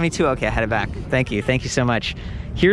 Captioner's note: laughs